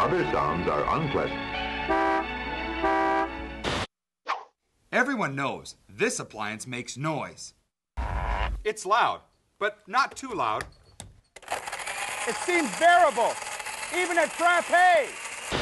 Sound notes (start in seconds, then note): 1.7 honking horn; 11.4 blender whirring